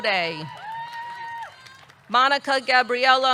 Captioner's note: audience cheering; audience clapping